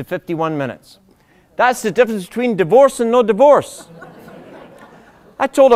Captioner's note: laughter